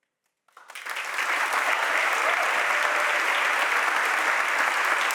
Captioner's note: audience applauding